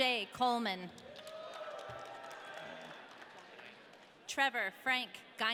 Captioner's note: audience cheering